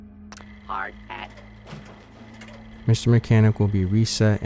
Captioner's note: robot speaking-Hard hat